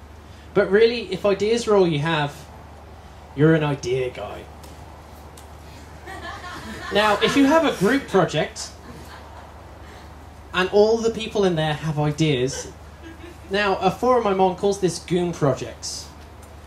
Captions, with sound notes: But really, if ideas are all you have, you're an idea guy. [ (Laughter) ] Now, if you have a group project, and all the people in there have ideas, now a forum I’m on calls this Goon Projects.